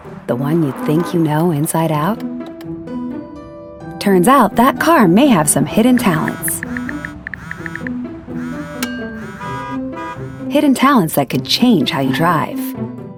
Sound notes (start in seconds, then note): 6.4 phone vibrates; 8.3 car honks